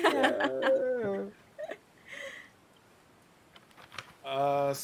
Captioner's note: people laughing